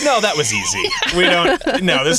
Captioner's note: laughing